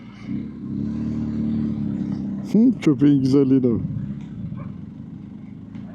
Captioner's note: engine Sound